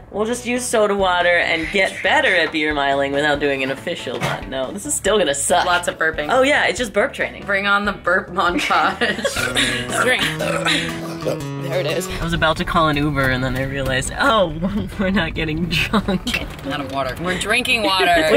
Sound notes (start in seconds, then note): 9.2 burp... burp... burp; 9.3 burp